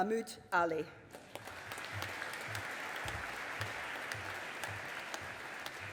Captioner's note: audience applauding